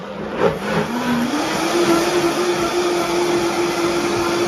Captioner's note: blender roaring